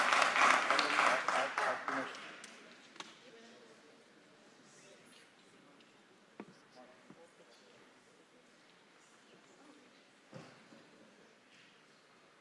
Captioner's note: applause